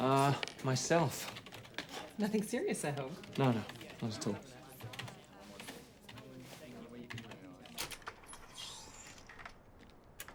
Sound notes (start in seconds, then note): 1.6 keyboard clacking